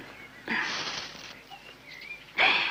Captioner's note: rustling